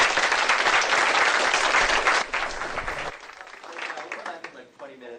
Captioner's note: applause